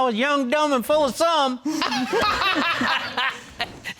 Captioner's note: all laughing